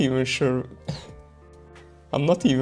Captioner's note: khehh